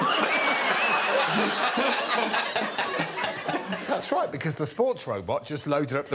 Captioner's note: audience laughing